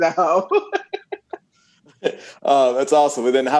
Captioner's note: laughs